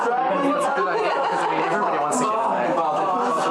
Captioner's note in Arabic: كلاهما يضحك